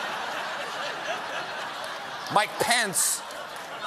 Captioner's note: laughter